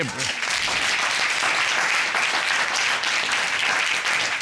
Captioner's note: applause